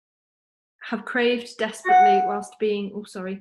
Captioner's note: phone dings